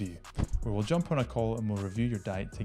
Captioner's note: graphic thumps